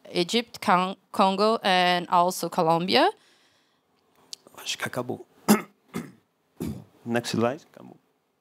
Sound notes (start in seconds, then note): 5.6 non-english speech